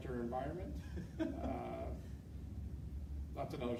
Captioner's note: chuckling